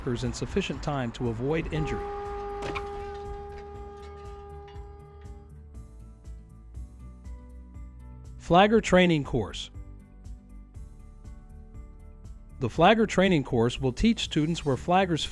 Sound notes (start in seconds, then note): 1.5 car horn